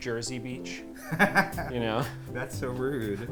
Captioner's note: laughter